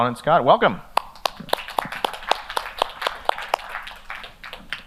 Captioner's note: audience applause